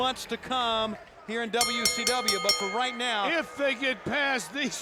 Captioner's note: bell ringing